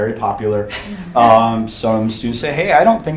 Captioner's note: chuckling